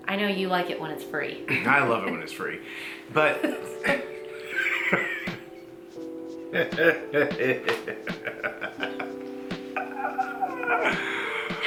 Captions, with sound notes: I know you like it when it's free. - I love it when it's free. (both laughing)